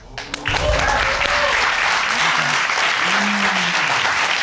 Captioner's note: audience cheering